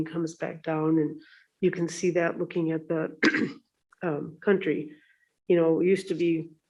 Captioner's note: clears throat